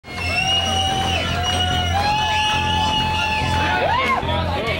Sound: loud cheers and whistles

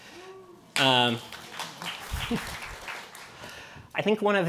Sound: cheering and applause

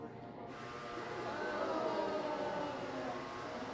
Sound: buzzzzz

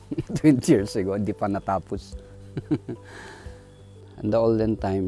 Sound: laughs

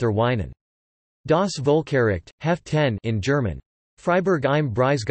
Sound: in German

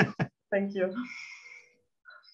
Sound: laughing

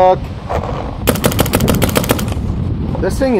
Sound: shooting sounds

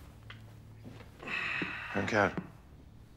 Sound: breath sound

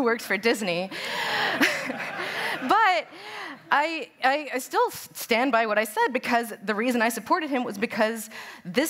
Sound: laughter

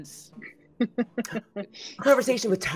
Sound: Deborah laughing

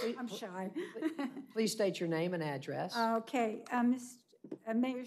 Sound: laughter

